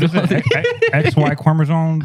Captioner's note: laughter